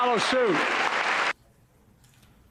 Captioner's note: applause